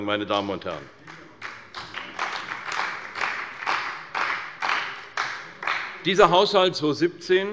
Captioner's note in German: Beifall bei der CDU und dem BÜNDNIS 90/DIE GRÜNEN